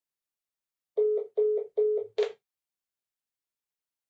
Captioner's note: phone beeps